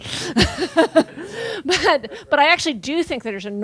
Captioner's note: laughing